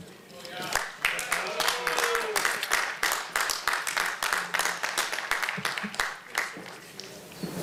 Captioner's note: applause